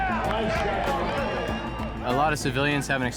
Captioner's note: cheering and applause